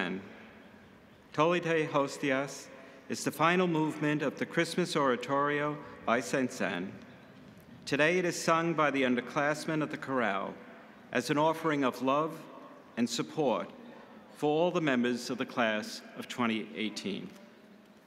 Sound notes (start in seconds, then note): none